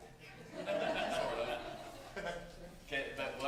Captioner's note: laughter